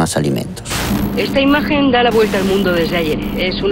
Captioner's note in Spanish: Locutora con acento español